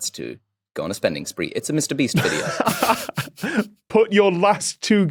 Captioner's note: laugh